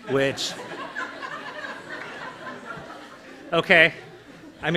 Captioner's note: laughter